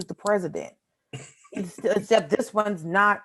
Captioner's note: panelists laughing